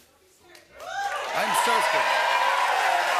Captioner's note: cheering and applause